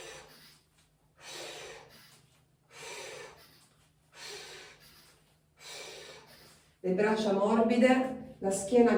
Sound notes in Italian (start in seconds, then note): 0.6 sbuffare